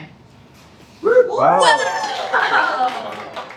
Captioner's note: cheering